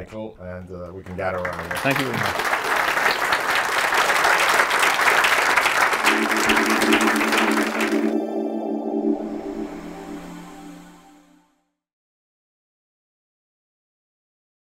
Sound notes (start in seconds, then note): 3.8 applause